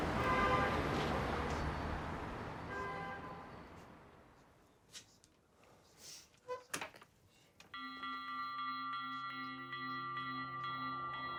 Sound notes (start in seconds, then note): 0.1 car horns honking; 7.8 mysterious music